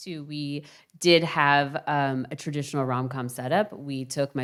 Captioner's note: none